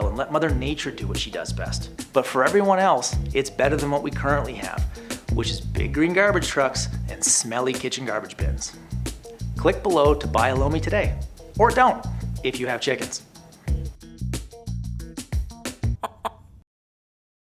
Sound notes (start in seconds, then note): 13.6 upbeat music; 16.0 chicken squawks